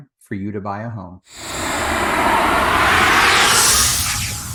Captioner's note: air whooshing